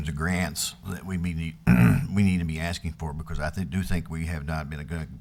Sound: clears throat

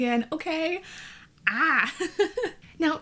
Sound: laughs

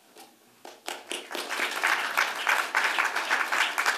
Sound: applause

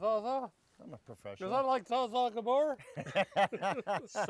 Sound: all laughing

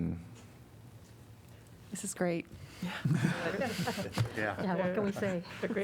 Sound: laughter

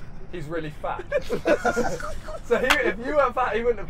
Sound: laughing

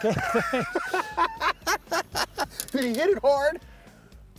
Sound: laughing

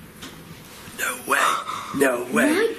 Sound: footstep

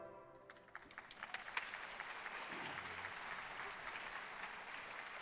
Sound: audience applauding

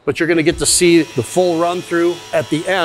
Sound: machine whirring

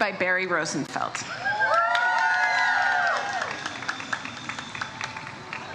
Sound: audience applauds

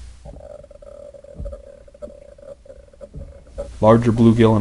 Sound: underwater noises

